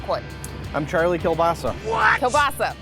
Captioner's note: sound effect "What!?"